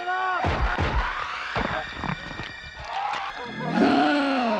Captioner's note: crackling; groaning; growling